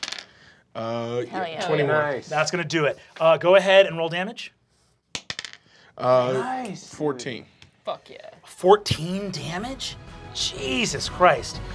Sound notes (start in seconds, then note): 5.1 dice clacking